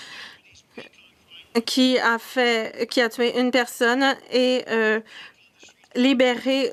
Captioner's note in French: voix de l'interprète